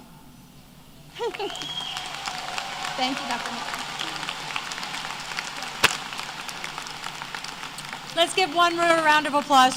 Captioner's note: applause